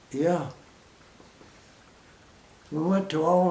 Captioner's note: pause